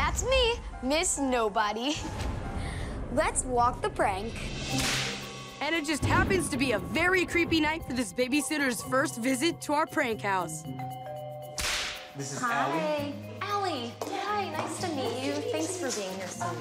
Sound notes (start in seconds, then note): 10.6 doorbell rings